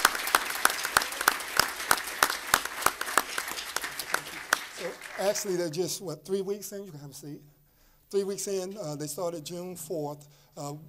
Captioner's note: applause